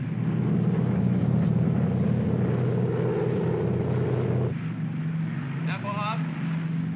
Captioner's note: aircraft rumbles